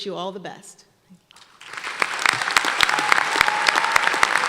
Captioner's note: applause